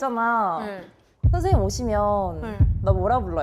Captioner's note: heartbeat sound